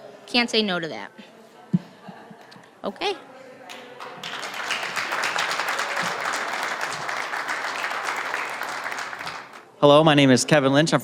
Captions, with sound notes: Can't say no to that. [APPLAUSE] >> Hello, my name is Kevin Lynch.